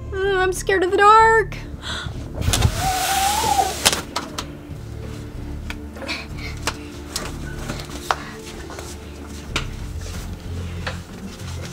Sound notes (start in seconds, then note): 5.0 grunting and shuffling